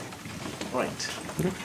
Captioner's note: indistinct conversation